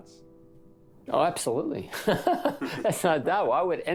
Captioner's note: laughs